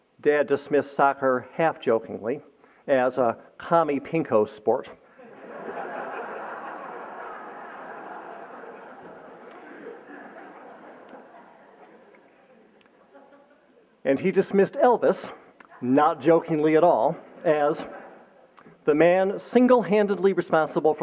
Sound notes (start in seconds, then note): 5.1 laughter